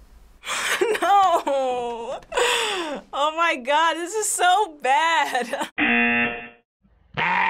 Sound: buzzer

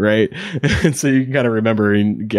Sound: chuckles

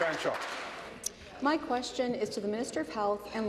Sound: applause

